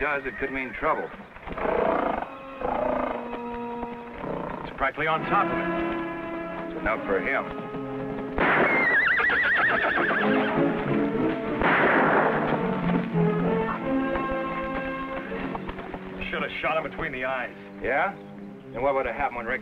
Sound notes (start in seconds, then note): 8.3 gun fires; 8.4 Champion whinnies; 11.5 gun fires